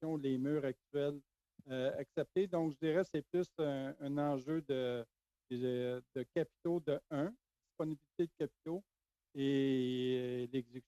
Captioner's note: speaking French